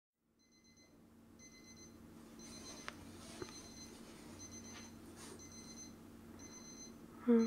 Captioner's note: morning alarm ringing